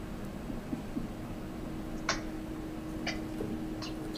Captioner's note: laughs